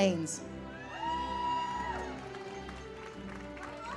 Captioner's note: audience applauds